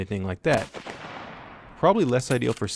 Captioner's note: gun fires